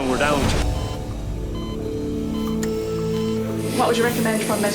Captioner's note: heart monitor beeps